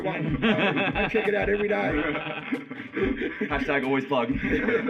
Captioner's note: laughter; laughs